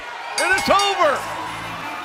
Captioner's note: bell ringing